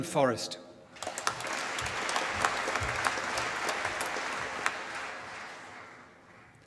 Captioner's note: applause